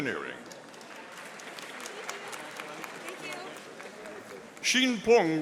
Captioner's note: audience applauding